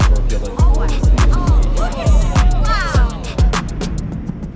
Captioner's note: chatter